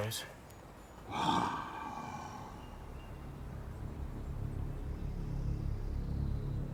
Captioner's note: low growl; tense music